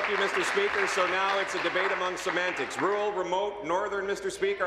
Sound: applause

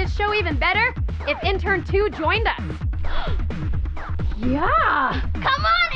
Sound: gasps

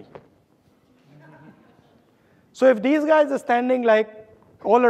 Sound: audience laughing

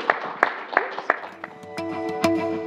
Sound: applause

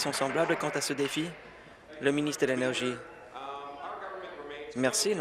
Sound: applause

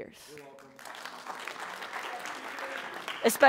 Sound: applause

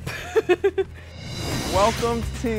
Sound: laughing

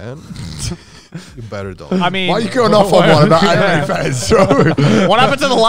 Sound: group chatter

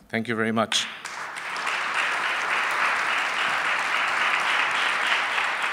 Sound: applause

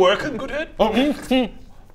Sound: hrmph hmm

